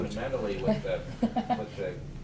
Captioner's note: laughter